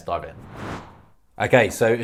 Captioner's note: whooshing